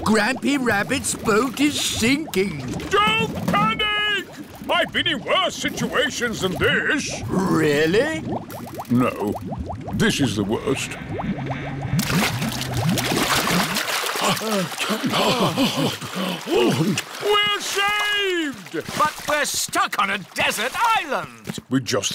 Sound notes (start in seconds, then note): 14.1 all puff and pant